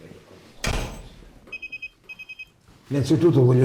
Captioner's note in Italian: beep-beep